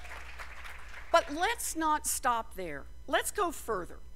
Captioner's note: cheers and applause